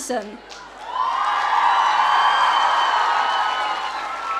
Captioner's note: audience cheering